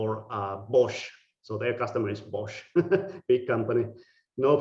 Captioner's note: laughing